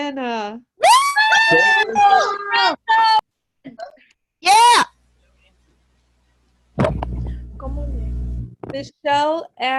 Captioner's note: cheering